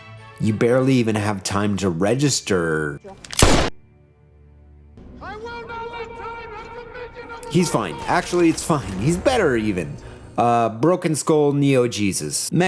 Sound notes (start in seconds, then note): 3.3 gunshot